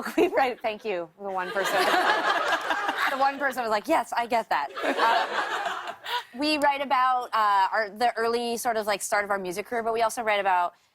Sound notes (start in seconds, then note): 1.3 laughter